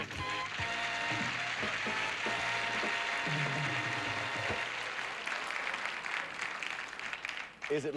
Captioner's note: audience applauding